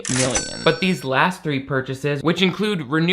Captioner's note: cash register dings